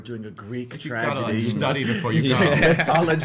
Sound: all laugh

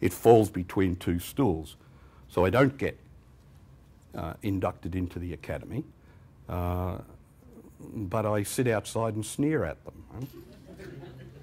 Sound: laughter

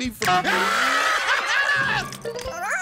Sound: screaming

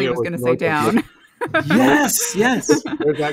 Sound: laughing

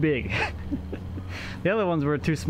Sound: laughing

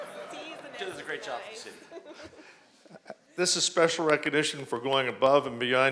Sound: laughter

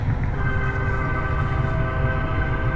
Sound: train whistle

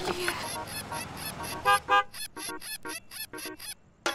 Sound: honking

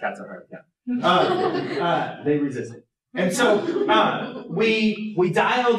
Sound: laughter

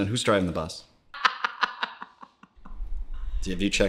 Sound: laughs

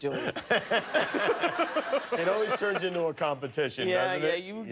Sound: laughter

